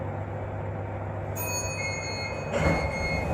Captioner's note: chime